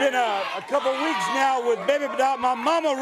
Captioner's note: crowd chatter